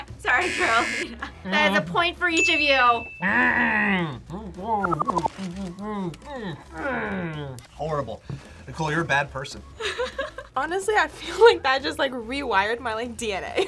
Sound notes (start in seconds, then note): 3.3 grunts happily; 9.8 laughs